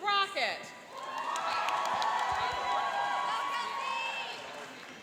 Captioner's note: cheering and applauding